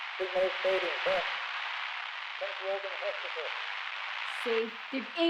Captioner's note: radio static buzzing